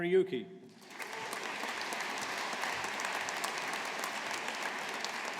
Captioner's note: audience applauding